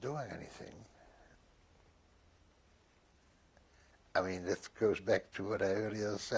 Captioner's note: pauses for 3 seconds